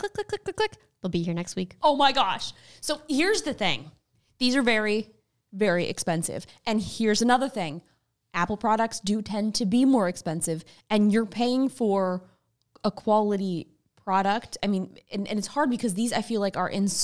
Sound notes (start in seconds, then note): none